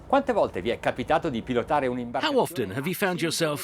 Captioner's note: speaking in foreign language